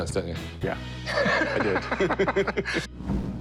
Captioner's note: laughs